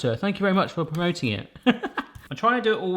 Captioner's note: chuckling